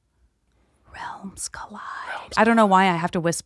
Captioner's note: whispering